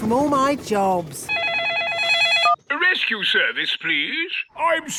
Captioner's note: phone ringing